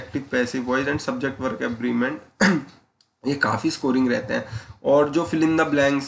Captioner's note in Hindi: गला साफ़ करने की आवाज़